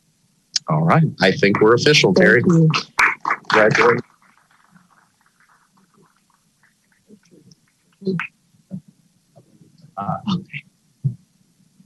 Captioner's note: applause